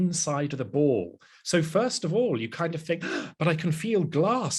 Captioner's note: gasp